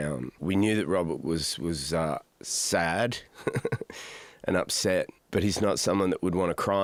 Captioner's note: laughs